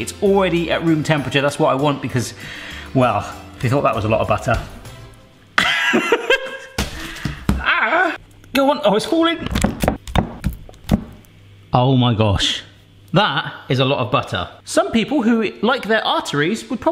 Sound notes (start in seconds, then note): 5.6 laughing